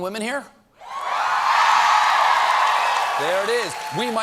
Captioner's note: cheers and applause